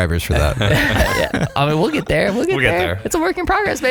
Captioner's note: laughing